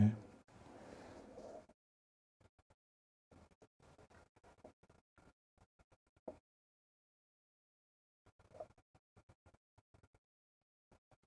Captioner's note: silence